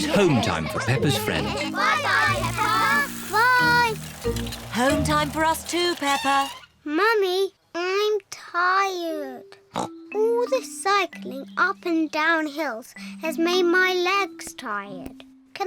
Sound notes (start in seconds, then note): 9.2 snorts